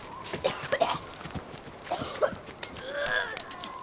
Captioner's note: coughing